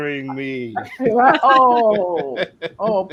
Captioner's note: laughs